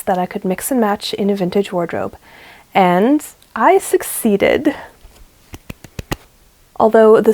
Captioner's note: little claps